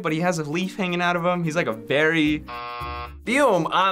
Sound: buzzer

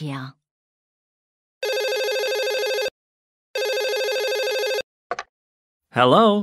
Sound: telephone rings

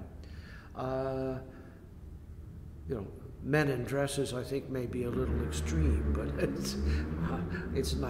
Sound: laughs

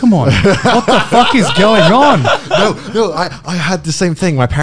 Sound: laughing loudly

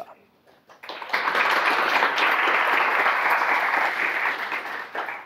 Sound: audience applause

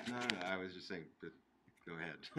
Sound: laughing

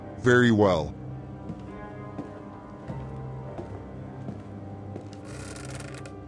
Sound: footsteps; creak

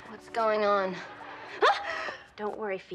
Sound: yelps

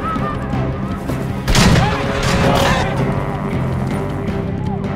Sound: gunshot and scream

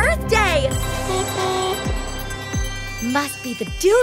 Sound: horn beeps

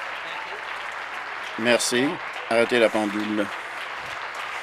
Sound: applause

